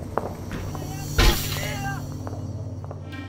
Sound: far-off gunshots; shouts. Crash of a door breaking down

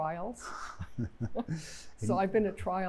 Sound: laughter

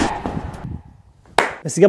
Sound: claps

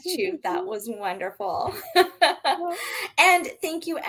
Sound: laughing

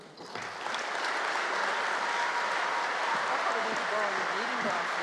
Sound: applause

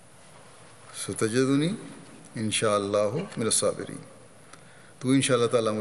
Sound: Arabic

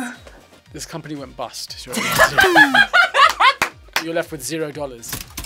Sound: laughs

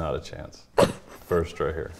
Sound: chuckling

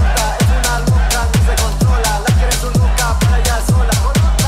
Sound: beat drops; spanish rapping continues; crowd

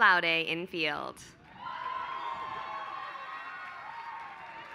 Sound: applause

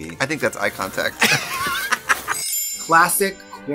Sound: Katya laughs

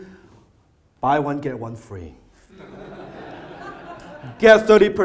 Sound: audience laughter

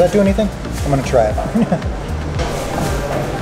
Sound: chuckles; light upbeat music

